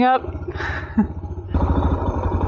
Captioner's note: chuckles